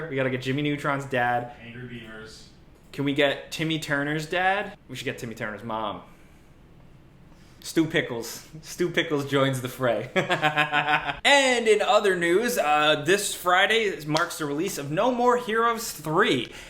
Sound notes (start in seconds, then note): 10.2 laughs